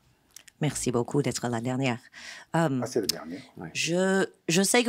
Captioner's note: non-english speech